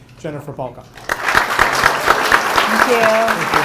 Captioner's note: audience applauding